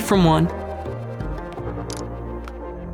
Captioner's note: iphone lock click